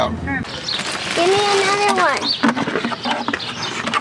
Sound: paper rustling; birds chirping

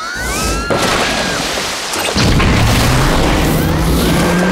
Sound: screams

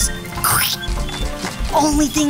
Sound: smush sound

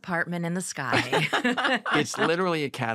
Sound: laughter

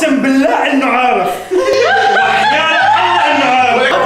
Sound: laughs

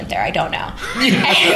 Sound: laughter

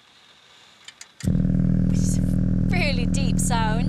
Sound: vibratating sound

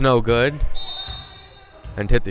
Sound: whistle blowing

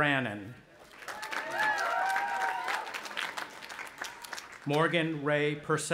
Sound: audience applauding

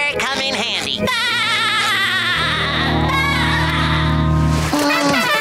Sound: laughing; trumpets playing

